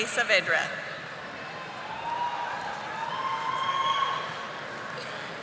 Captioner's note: audience applauding